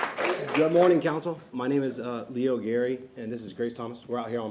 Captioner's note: applause